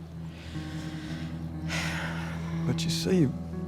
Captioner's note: sighs